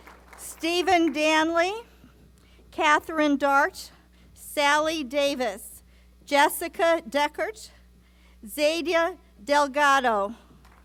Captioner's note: applause